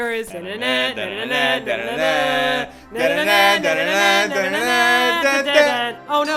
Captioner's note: Hums Dragon Quest battle song